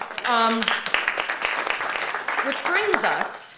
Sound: audience applauding

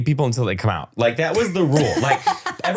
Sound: laughing

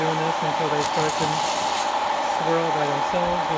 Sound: beans rattling

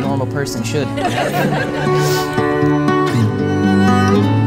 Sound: audience laughs

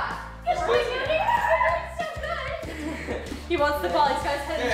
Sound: chatter

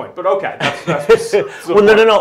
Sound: laughing

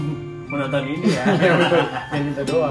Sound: laughing

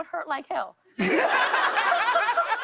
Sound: laughter

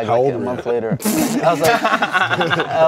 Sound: gamers laughing

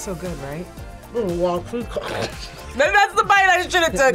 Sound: laughs

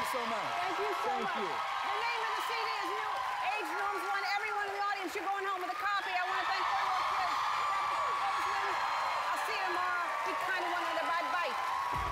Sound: cheers and applause

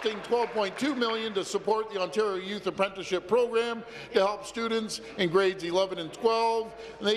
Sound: some applause

